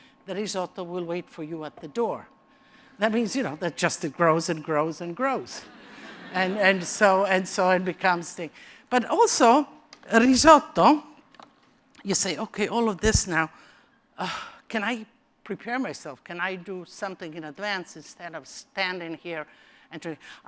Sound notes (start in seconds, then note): 5.6 laughter; 14.2 sigh